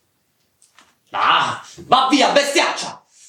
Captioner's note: scream